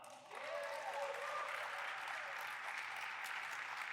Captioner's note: applauding